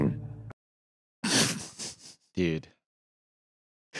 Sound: laughs softly

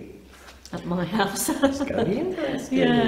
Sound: laughing

